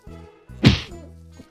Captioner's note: smack!!